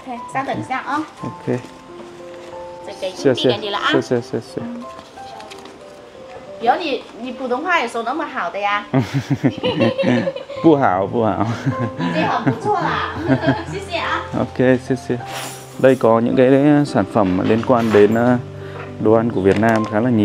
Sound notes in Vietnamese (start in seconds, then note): 11.2 Tiếng cười